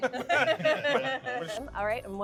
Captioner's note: laughing